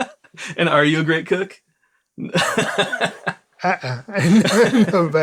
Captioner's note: laughs